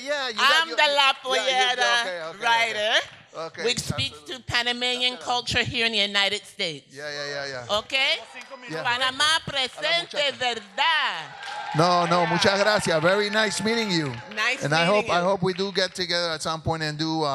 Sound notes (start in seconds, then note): 8.7 speaks in Spanish; 11.6 audience applauds; 12.6 speaks in Spanish